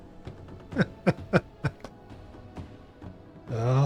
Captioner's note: laughs